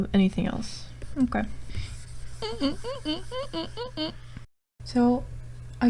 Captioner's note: window cleaning squeaking